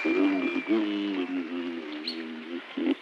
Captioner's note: mumbling